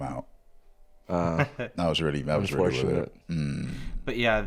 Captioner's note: laughs